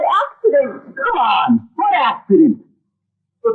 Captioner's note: definite boston accent